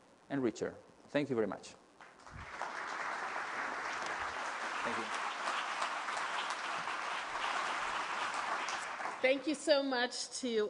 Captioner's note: applause